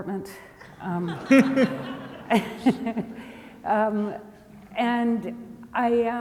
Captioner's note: audience laughs